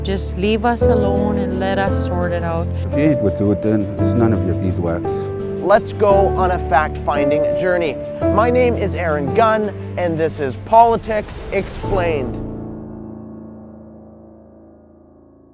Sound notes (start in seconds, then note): 3.0 speaking in foreign language; 12.7 dramatic music